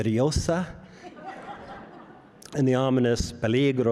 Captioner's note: audience laughs